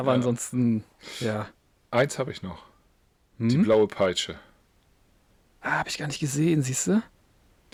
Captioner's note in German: schnauben